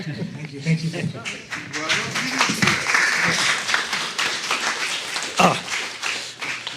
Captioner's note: applauding